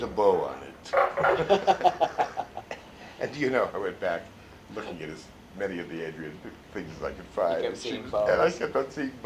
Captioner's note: mimics accent; laughter